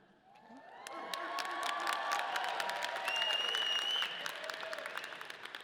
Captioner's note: audience applauding